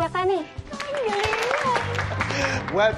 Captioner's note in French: applause